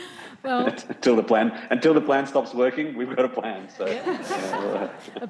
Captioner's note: audience laughs